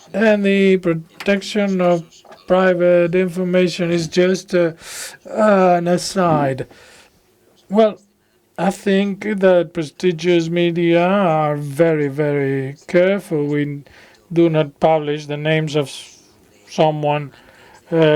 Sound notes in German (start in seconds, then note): 8.3 spanisch